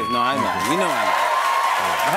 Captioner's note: cheers and applause